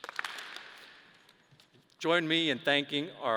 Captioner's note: audience applause